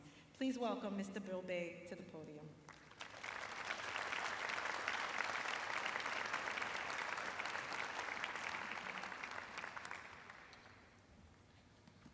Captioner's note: applause